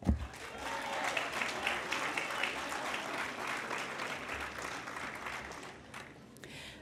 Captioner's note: applause